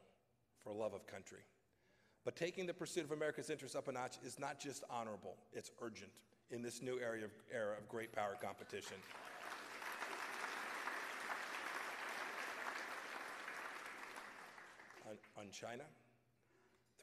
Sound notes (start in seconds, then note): 13.5 applause